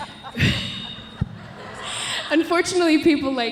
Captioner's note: man laughing; audience laughing